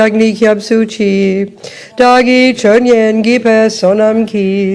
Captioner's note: French